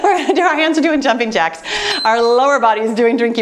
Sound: timer beeps

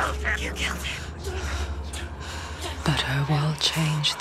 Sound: quivering breath

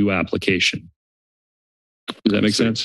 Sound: silence

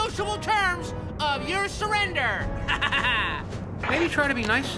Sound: victorious laugh

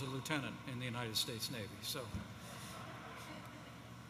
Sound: laughter

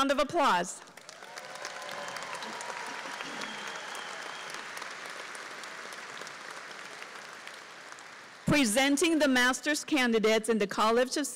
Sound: applause

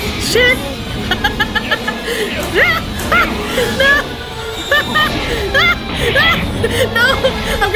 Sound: crazed laughing continues

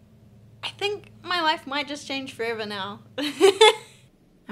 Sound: laughs

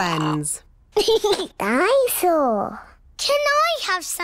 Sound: giggles

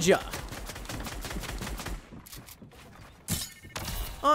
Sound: gun banging

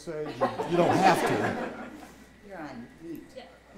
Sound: audience laughing

